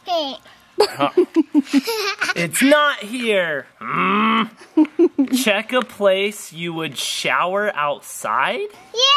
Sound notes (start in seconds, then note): 0.8 laughing